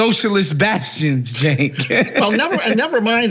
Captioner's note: laugh